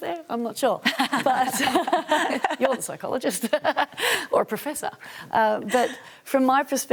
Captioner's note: laughs